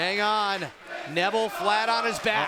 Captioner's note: fans chanting